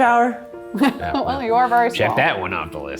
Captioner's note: laughs